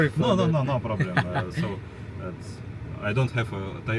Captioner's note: laughter